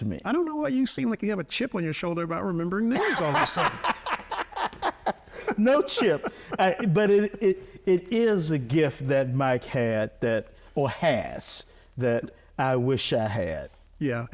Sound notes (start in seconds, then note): 2.9 laughing